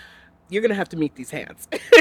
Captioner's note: laughs